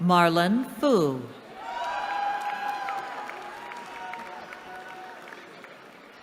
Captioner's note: cheering